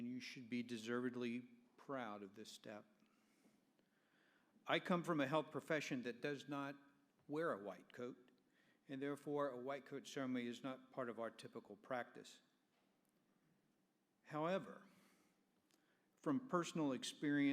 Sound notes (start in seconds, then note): none